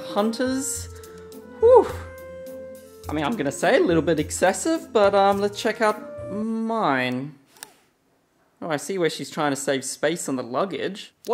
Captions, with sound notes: Hunter's. Uff! I mean, I'm gonna say a little bit excessive but let's check out mine. (camera lens shifting) Oh, I see where she's trying to save space on the luggage.